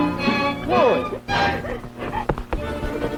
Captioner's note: both speaking faintly; Chloe sobbing; suspenseful orchestral music